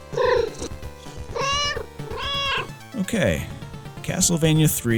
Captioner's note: meow